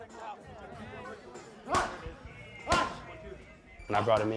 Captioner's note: yelling and pounding